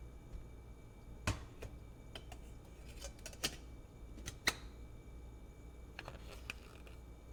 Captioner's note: kettle clanks; lid clatters